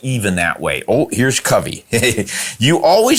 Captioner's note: giggles